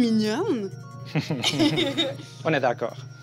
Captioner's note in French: rires